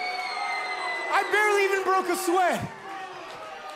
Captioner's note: crowd cheering